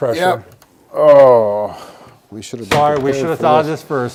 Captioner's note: groans